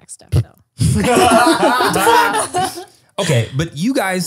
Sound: all laughing

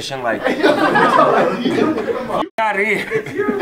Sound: all laughing

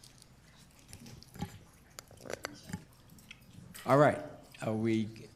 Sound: group chatter

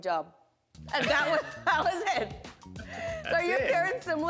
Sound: laughs

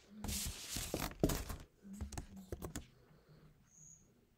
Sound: page rustling

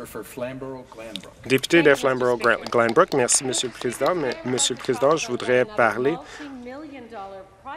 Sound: applause

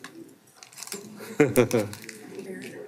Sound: laughing

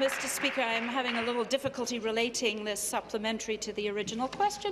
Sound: applause

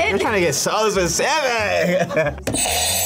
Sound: laughs; buzzer rings

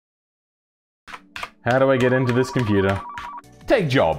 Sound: tapping keys

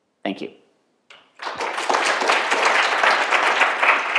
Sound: applause

